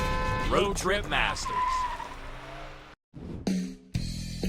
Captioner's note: car wheels screeching; upbeat music